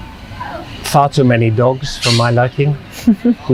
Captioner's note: laughing